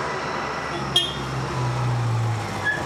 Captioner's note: beeping